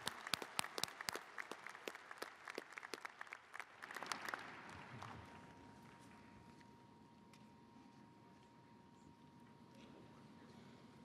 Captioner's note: cheers and applause